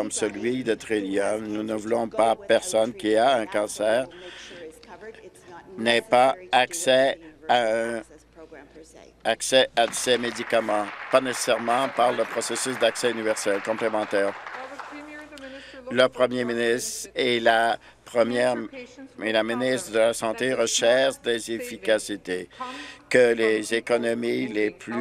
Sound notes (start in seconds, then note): 12.1 applause